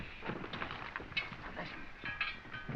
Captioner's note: whispering